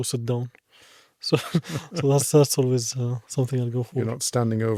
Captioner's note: laughs